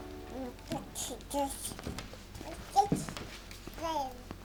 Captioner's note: baby babbling